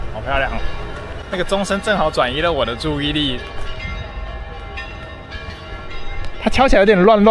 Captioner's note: ding-dong, ding-dong, ding-dong